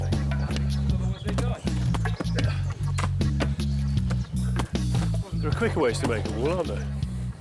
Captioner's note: upbeat reggae music; earth thumping